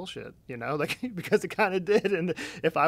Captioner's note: laughing